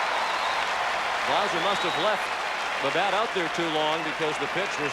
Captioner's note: applause